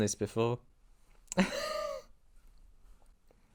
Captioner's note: surprised wheeze